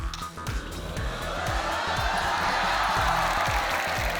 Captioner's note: cheering, applause